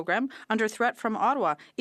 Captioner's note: speaking French